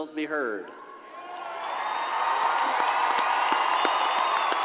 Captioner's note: crowd cheering